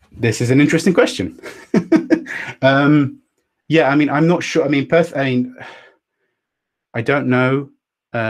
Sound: laughs

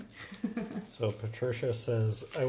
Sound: chuckles

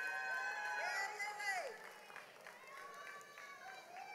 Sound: audience applauds

